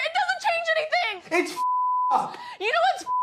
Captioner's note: beep